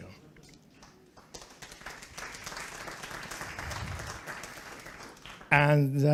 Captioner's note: applause